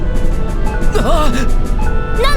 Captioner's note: gasp